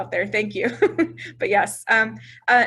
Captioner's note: woman laughs